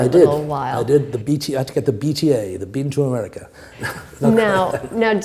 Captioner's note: chuckle